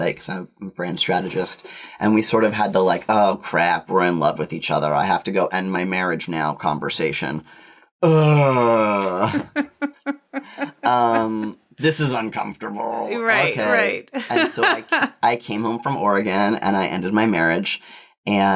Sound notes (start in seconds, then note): 8.0 sighs; 9.2 laughs